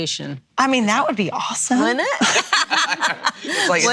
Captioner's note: laughs